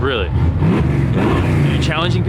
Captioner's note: engine revving